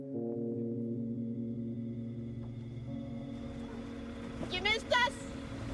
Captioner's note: boat motor revving